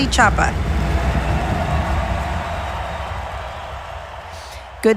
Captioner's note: crowd cheering